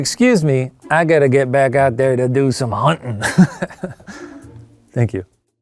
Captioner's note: laughs